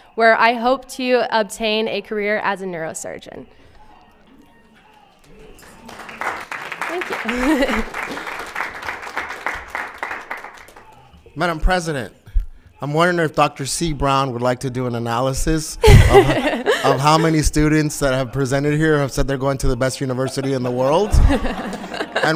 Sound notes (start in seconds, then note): 5.2 applauds